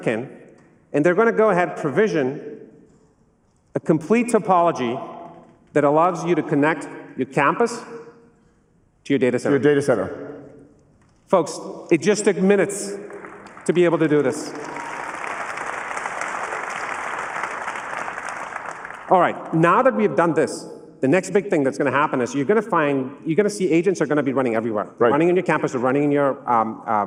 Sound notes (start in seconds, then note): 13.0 applause